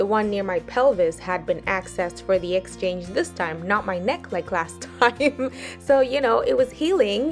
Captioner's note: chuckles